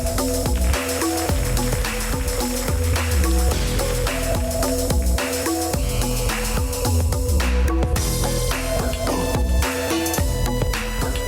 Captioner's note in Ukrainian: оплески